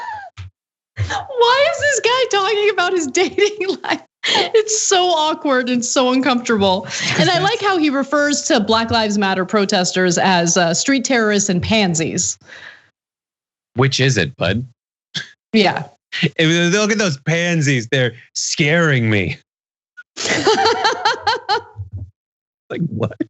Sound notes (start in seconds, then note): 4.4 laugh; 20.2 laugh